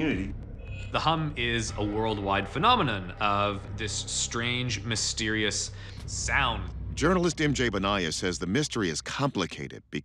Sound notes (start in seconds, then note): none